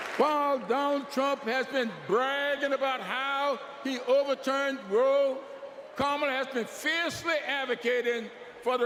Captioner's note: applause